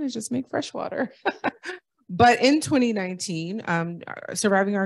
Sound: laughter

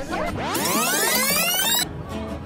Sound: tape rewinding sound effect

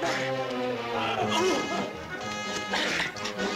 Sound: laughing

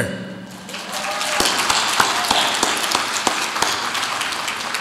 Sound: audience applauds

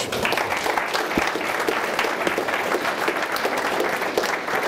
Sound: applause

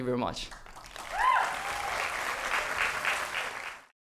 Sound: applause

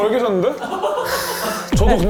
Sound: A deep sigh

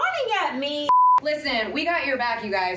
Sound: screen beep

